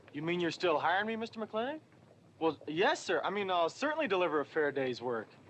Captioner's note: none